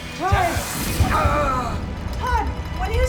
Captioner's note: grunts